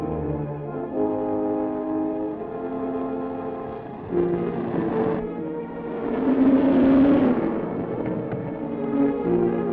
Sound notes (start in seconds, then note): 6.3 car speeding